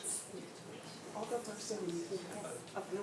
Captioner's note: speaks faintly